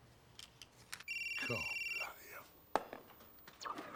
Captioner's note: phone ringing